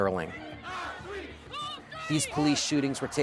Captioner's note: chanting